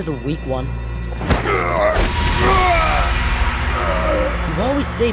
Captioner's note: groaning